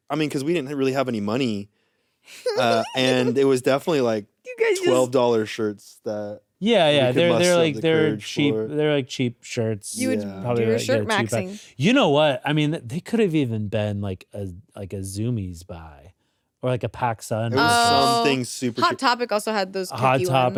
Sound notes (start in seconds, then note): 2.3 giggles